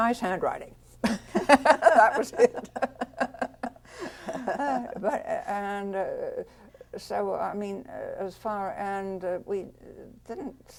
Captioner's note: laughter